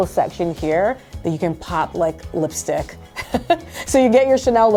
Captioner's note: laughs